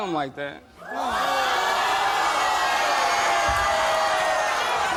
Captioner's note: audience shouting